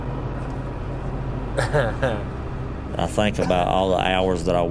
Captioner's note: chuckles